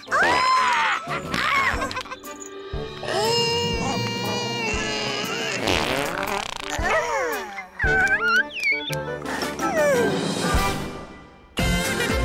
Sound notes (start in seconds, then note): 4.2 strains / loud rasp